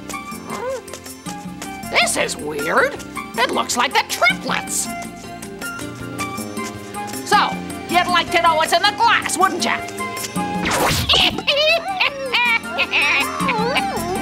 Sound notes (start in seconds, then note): 0.3 owl murmurs; 10.6 whooshing; 10.7 witch cackling; 12.7 owl whimpers